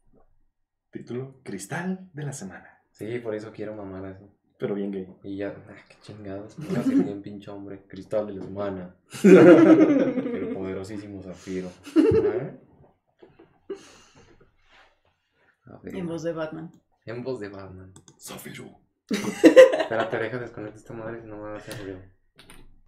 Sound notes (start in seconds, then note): 8.1 deep voice; 9.2 laughter; 13.5 laughs & swallows water; 19.1 In Batman voice; 19.1 laughs